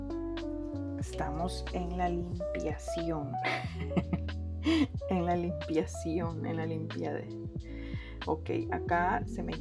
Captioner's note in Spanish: risas